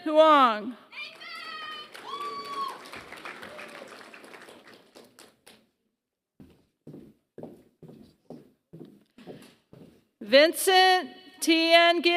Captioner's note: applause